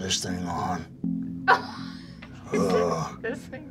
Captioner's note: laughs